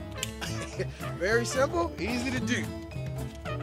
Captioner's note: chuckles